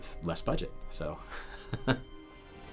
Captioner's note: rire